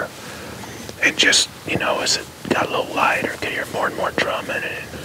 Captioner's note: whispering